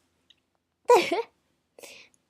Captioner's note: laugh